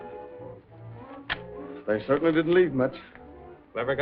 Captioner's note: slams papers on table